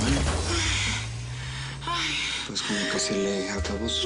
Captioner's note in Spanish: Chasquido eléctrico